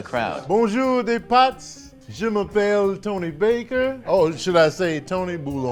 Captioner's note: speaks French